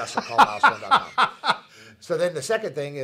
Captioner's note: laughing